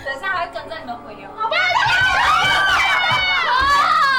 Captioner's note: screams